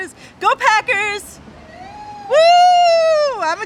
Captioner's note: cheering